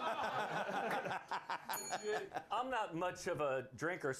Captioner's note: bell rings